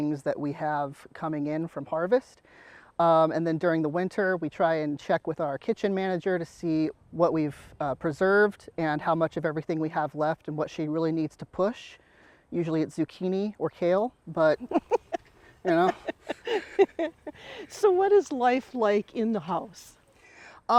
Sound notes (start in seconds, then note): 14.5 laughs